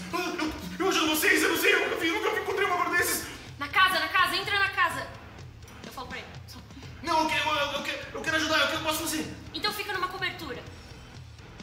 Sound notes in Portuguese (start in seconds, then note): none